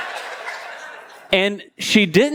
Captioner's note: congregation laughing